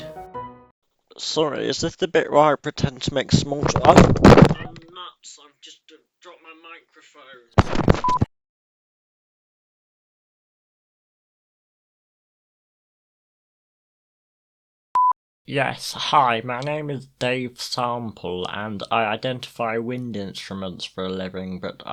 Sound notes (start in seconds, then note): 7.5 microphone being stepped on